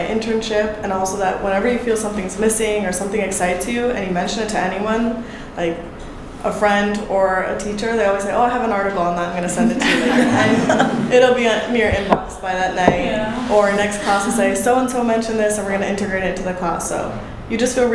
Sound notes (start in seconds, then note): 11.2 panel laughing